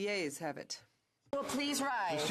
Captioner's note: speaking French